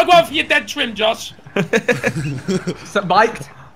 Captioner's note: laughing